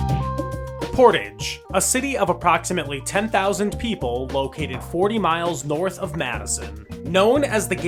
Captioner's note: voiceover